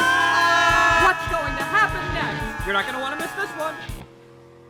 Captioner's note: screams; screaming continues